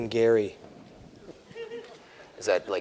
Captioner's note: laughter